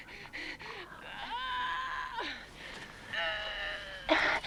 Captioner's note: Hundra grunting